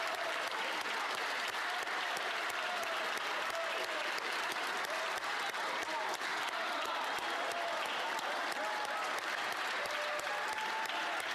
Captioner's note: applause